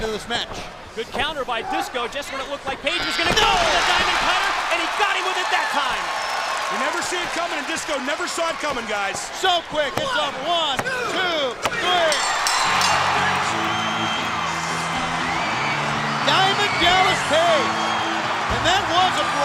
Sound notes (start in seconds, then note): 11.6 crowd cheering; 15.3 bell ringing; 16.1 crowd cheering